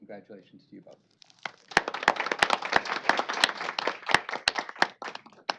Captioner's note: applause